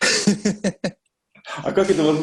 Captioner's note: laughs